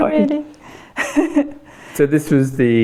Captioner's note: laughing